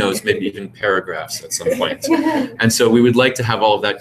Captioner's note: laugh